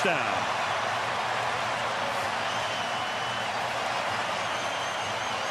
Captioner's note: cheering